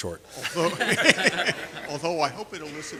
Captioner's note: laughter